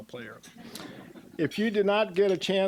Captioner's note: audience chuckling